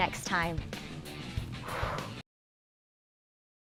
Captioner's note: exhales